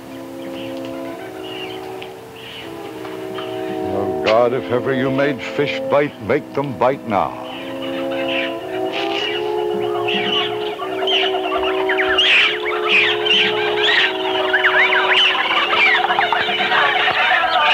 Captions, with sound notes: (pensive music) - Well, God, if ever you made fish bite, make them bite now. (wildlife clamoring)